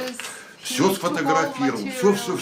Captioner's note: foreign language